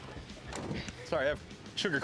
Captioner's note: car door thudding